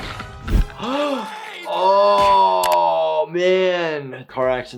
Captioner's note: building crashing down; gasps